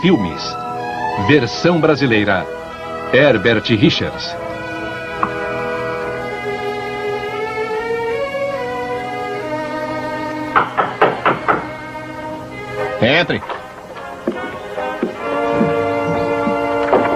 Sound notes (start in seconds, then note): 10.5 knock on door